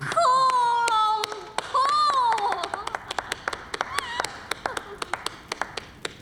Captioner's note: clapping